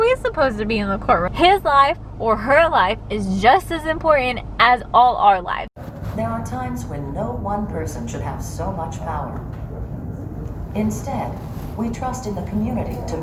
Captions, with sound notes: supposed to be in the courtroom? His life or her life is just as important as all our lives. [Woman speaking on video] "There are times when no one person should have so much power. Instead, we trust in the community to